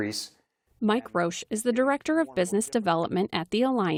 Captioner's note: voice-over